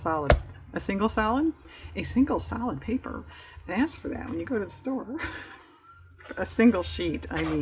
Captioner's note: laughs